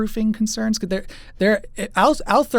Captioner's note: stumbles over words